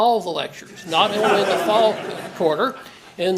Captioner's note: laugh